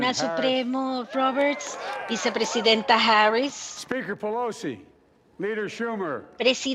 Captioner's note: cheering